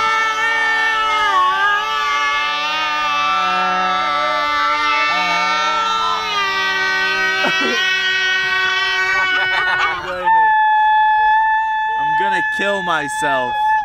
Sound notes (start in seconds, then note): 9.4 laughing